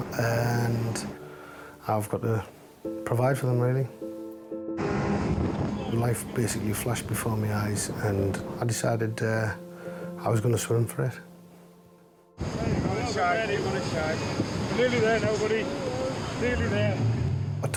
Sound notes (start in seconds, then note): 4.9 engine revving; 12.5 people chattering